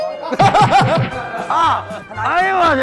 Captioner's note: hahahaha